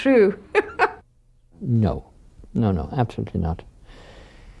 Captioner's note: laughs